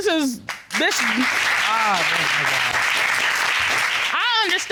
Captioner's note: audience applauding